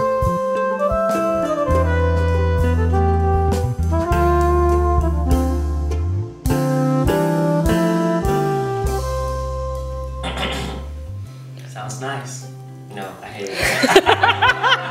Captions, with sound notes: *clears throat* Sounds nice. No- I hate it! *LAUGHTER*